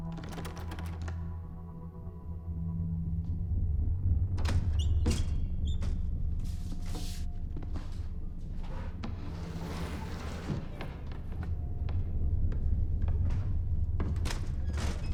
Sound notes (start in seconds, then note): 0.1 doorknob rattling; 4.2 window creaks